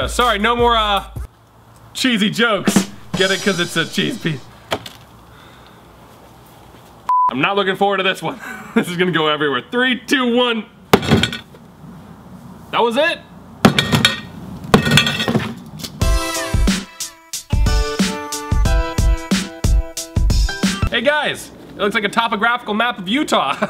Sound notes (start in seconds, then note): 10.9 hammer bangs; 13.6 hammer bangs; 16.0 upbeat music